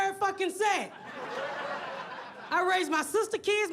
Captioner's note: audience laughs